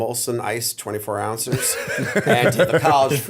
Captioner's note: laughter